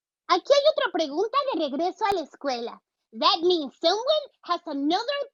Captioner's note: speaking Spanish